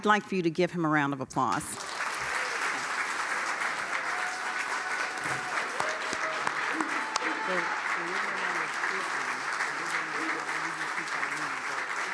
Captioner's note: applause